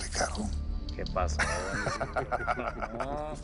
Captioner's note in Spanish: Risas